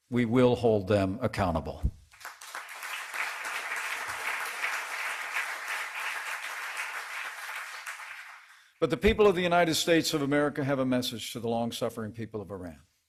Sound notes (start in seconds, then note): 3.8 applause